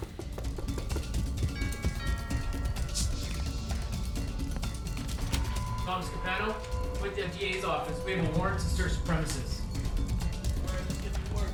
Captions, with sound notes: -[doorbell ringing] -[suspenseful music] Thomas Capano? We're with the FBI's office. We have a warrant to search the premises.